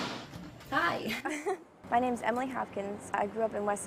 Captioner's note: laughs